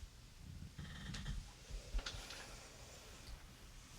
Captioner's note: bed creaks